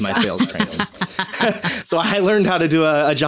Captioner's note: laughing